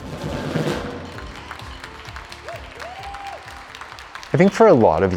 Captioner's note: cheers & applause